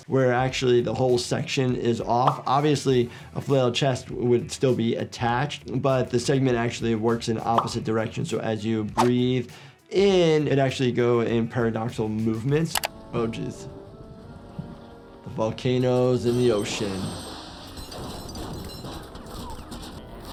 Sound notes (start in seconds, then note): 13.9 dramatic music; 16.6 pipe bursts and gas hisses; 17.8 rivets vibrate and pop; 17.8 rivets ricochet on walls